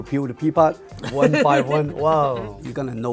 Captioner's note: laughing